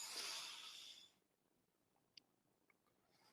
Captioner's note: silence